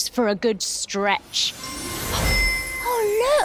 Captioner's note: magic chime